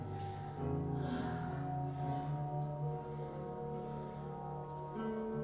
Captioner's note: breathes softly